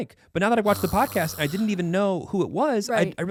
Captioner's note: groaning